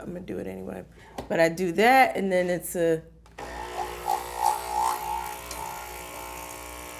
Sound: coffee machine buzzing

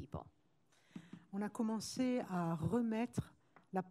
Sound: speaking french

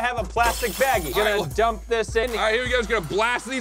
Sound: glass crashing

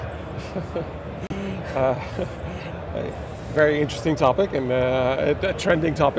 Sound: laughs softly

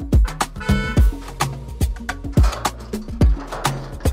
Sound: car honking

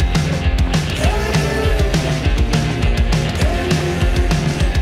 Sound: TV background plays

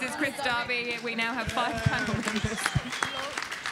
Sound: audience applauding; chuckles

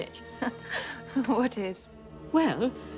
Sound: laughs

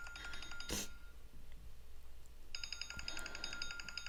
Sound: continuing cell phone ringing

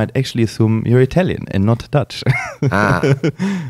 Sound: laughs

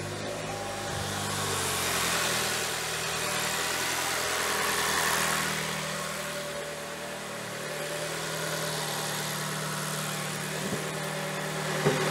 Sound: engine Started and running Noise

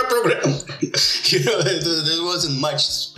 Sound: laughs

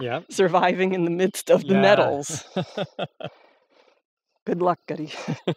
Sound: chuckles

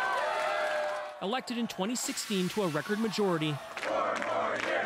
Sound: cheers and Applause

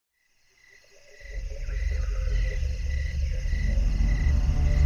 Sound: crickets softly chirping

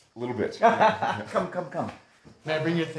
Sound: laughing

